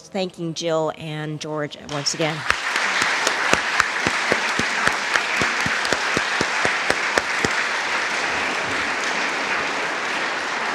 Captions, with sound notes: thanking Jill and George once again? (audience applauding)